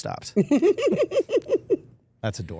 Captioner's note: Steph laughing